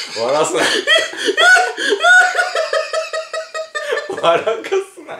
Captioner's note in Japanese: 笑い声